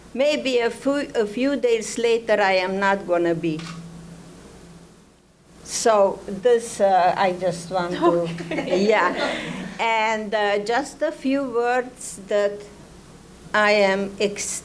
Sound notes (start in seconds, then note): 7.9 laughs; 9.7 audience laughing